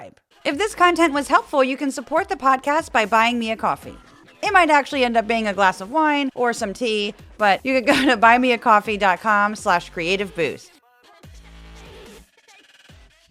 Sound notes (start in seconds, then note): 7.6 laugh